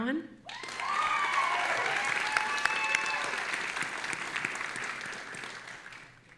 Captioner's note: audience applauding and cheering